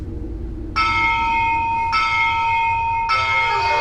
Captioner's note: bell rings